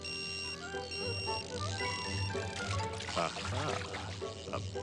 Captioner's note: beeping